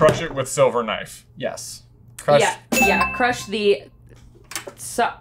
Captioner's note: none